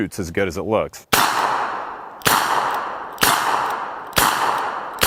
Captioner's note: gun fires